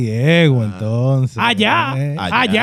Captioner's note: speaking In Foreign Language